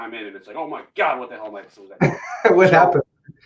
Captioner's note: voice muffling